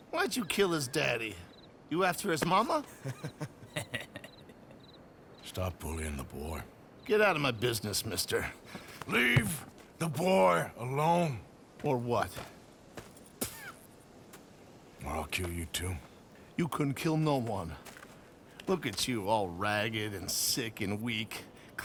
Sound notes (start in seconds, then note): 9.5 raises voice; 15.3 spits